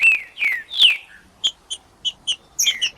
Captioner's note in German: trinca ferro cantando